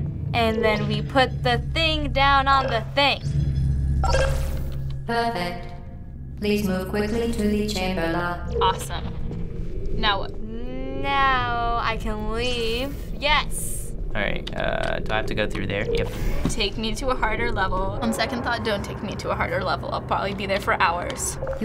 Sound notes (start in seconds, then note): 4.0 button beeps; 9.4 faint humming; 9.9 warbling